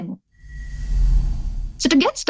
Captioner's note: air whooshes